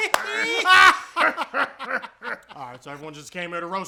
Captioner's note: even weirder laughing; all laughing again except Eagles